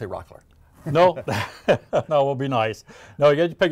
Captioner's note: laughing